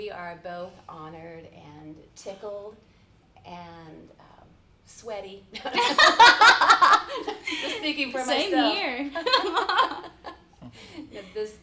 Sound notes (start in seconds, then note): 5.7 laughing; 9.5 chuckles